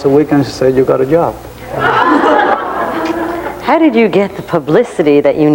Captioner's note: audience laughing